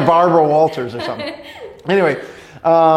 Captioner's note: laughs